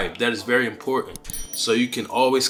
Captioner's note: bell chimes